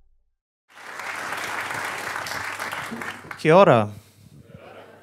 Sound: applause

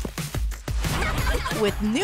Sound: laughter

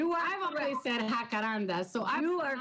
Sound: speaking in foreign language

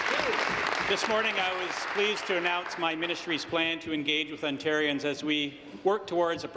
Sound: applause

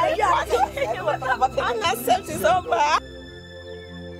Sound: speaking in foreign language; both chattering; soft orchestral music

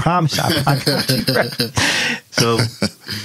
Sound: laughing

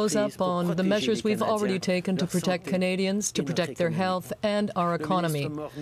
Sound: speaking French

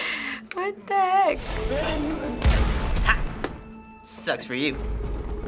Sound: creature growls, boulder smashes

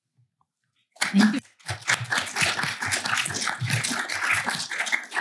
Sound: applause

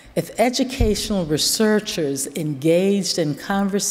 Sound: none

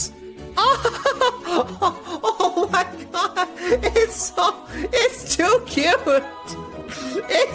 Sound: excited noises

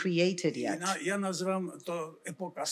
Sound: foreign language

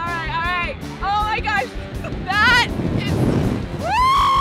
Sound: screaming

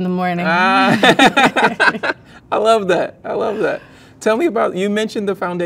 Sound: laughs

